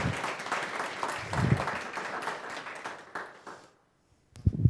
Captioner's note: audience clapping